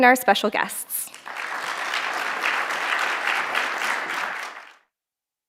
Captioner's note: applause